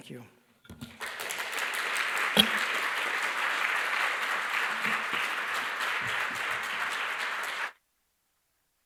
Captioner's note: applause